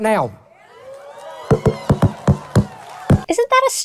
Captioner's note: audience cheering